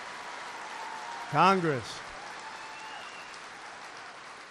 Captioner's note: applause